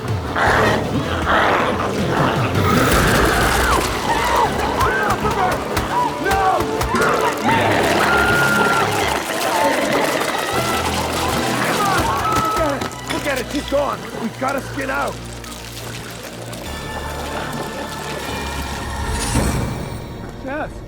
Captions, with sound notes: (glowzie growls) (Chalee screaming) - Come one, come on. No! (Chalee screaming) (glowzies growling) - Forget it. Forget it. She's gone. We've gotta skin out. (dramatic music continues)